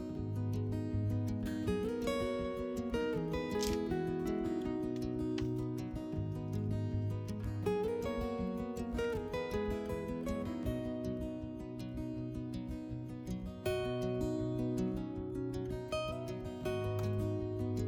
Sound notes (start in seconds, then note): 3.5 paper crinkles